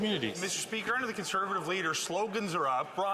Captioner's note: some Applause